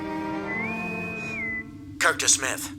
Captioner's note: intercom whistle